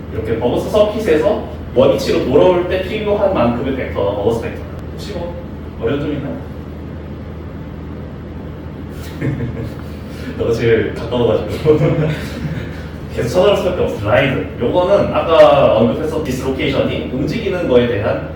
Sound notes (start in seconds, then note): 8.3 shuddering